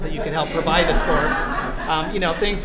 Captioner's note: laughter